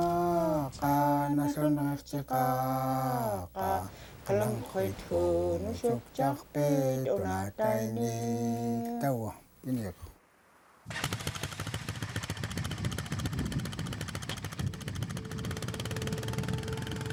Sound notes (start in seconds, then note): 3.0 singing in foreign language continues; 9.1 bike revving